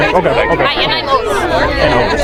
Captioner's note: Irish accent